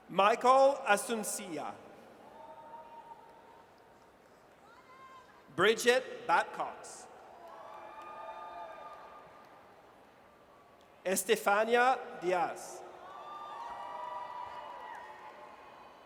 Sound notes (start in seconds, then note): 2.3 audience cheers; 7.4 audience cheers; 13.0 audience cheers